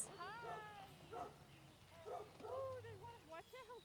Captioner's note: dogs barking